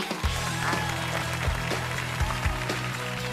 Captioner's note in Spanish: aplauso